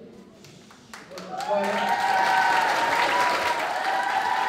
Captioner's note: applause